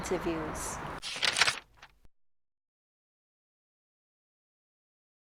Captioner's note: paper crumpling sound effect